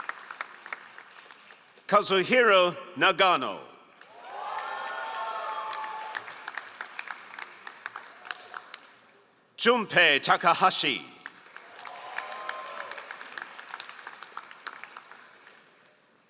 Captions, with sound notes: Kazuhiro Nagano. (all applauding) Jumpei Takahashi. (all applauding)